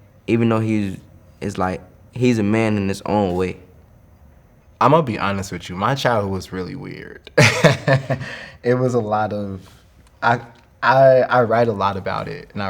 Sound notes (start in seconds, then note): 7.3 laughing